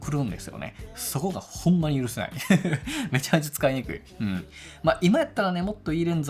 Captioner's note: laughs